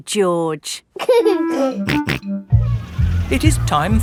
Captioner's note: giggling and snorting